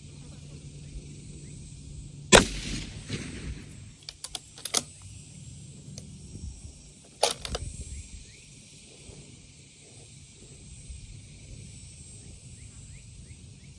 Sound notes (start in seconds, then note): 2.3 report of the rifle